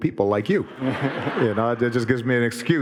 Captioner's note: audience laughing